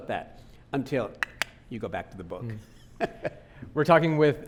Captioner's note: clicking tongue; laughing